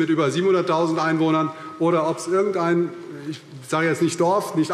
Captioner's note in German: none